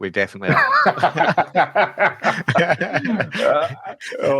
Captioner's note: speakers laughing